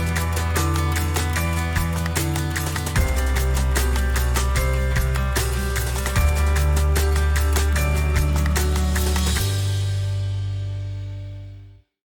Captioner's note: Plojimai